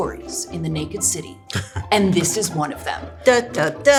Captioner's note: laughs